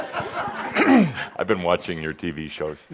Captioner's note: some chuckles